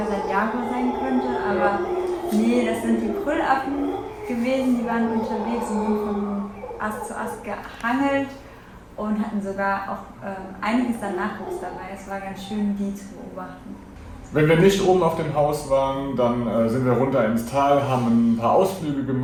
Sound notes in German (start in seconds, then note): 5.0 Gebrüll